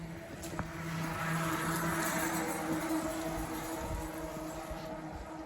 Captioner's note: bicycle passing